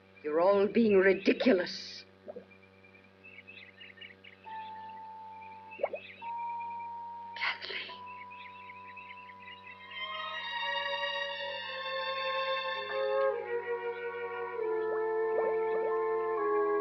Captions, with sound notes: You're all being ridiculous. [ WATER BUBBLING ] Kathleen! [ WATER BUBBLING ]